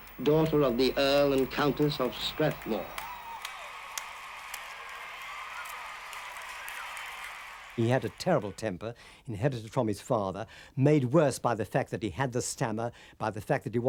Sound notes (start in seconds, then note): 3.7 applause